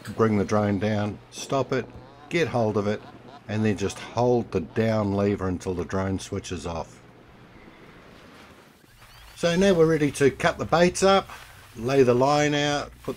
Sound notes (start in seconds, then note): 8.2 waves crashing